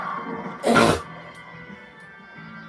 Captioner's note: loud snort